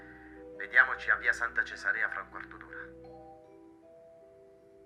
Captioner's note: Giulio on phone